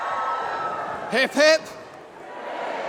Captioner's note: applause